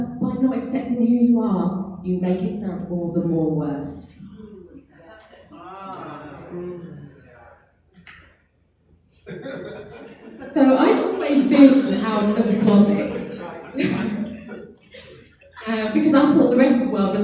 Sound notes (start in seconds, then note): 4.1 audience chattering